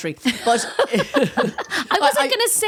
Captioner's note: laughing